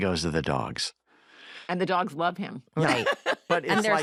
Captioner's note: laughs